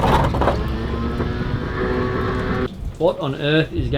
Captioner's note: object clicks; whirring